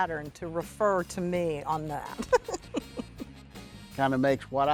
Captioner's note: laughs